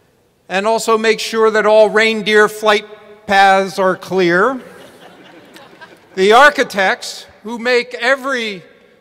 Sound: laughter

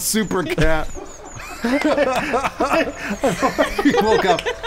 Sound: laughing

